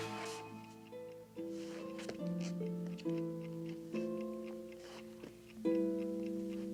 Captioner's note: tranquil guitar music; clock ticking